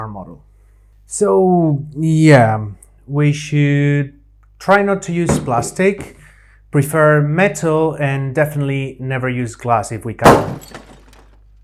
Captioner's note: crash